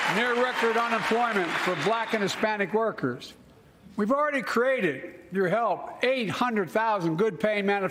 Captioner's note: cheers and applause